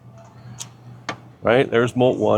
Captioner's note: metal clicks